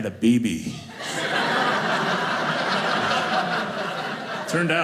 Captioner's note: audience laughing